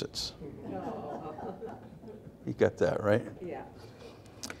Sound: audience laughs

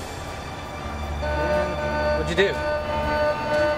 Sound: alarm sounds

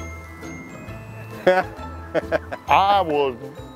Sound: laughs

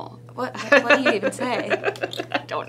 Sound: laughter; laughs

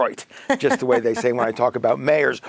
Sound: laughs

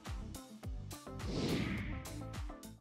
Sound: whooshing

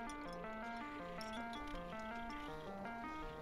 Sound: chink

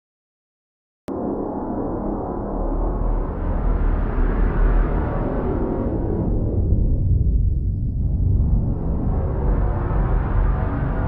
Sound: sound of oblivion

